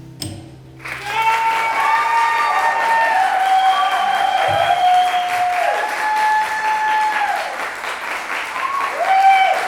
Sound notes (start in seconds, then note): 0.8 audience cheering and clapping